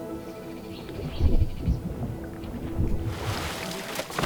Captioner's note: sloshing continues